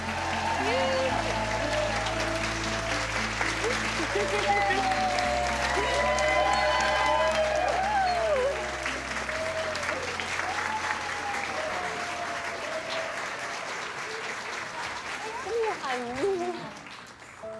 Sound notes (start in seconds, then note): 0.2 cheering & applause; 3.6 laughter; 6.2 cheering & applause